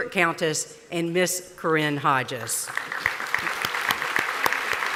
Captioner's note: applause